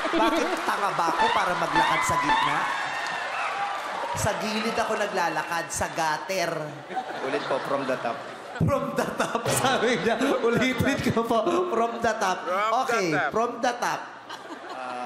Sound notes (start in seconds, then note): 10.0 laughing